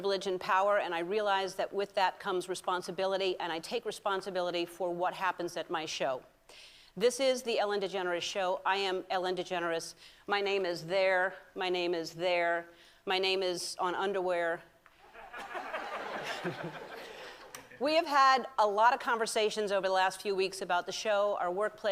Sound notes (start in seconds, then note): 15.0 laughter